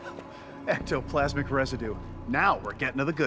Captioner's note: laughs